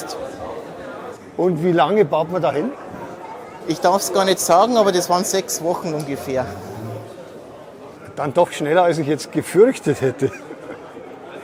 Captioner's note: laugh